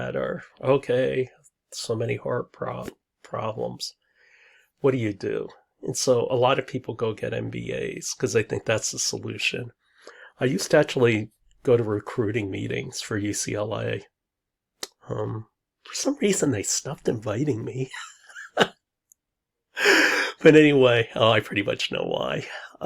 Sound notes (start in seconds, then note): 18.0 laughs